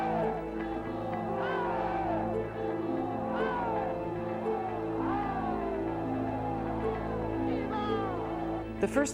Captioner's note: chanting